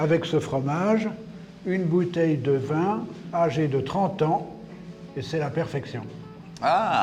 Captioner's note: talks french